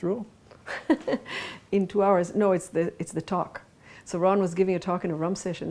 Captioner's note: laughs